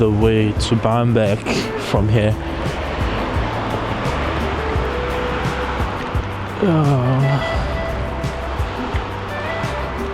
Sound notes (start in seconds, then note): 2.5 wind Blowing